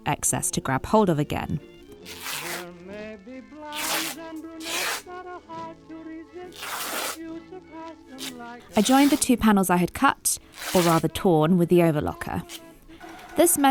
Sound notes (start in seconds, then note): 2.0 fabric ribbing in a satisfying way